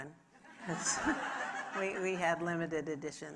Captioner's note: audience laughing